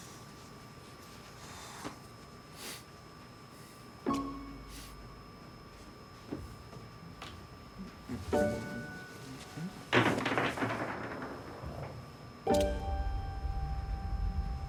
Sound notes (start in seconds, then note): 0.3 sound of washing machine; 4.0 horror music begins playing; 9.9 sound of objects falling